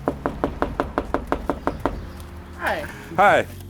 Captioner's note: knocking